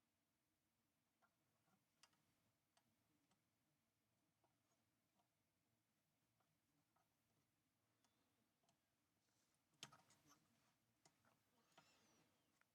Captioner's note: silence